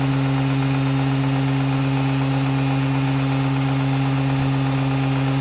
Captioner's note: motor whirring faster